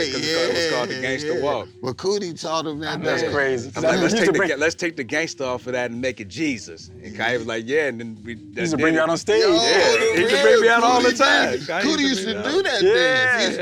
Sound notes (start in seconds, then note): 9.6 joyful laughing